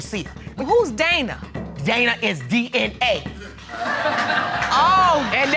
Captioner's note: audience laugh